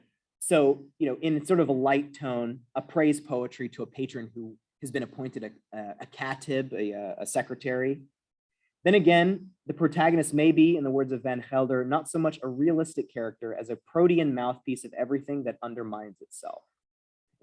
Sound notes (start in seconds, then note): 6.1 non-english